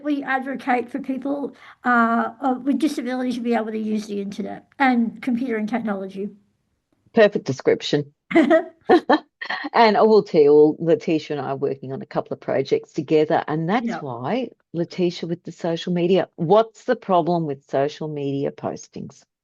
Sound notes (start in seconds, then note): 8.3 both laugh